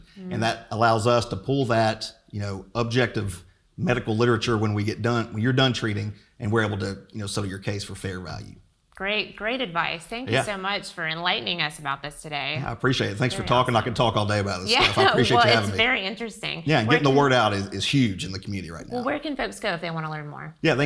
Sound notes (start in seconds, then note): 14.7 laughter